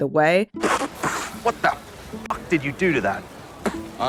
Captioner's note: Flint spitting